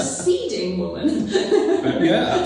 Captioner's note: laughs